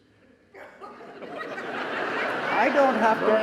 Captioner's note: audience laughing